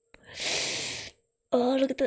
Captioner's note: sharp inhale